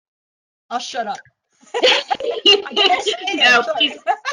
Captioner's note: laughter